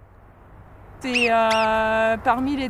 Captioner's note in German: Quietschen